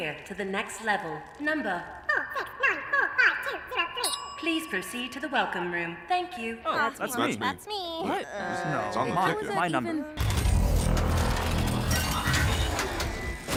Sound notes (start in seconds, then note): 10.2 mechanical whirring